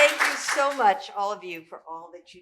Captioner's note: applause